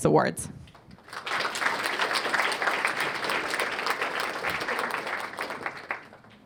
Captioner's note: applause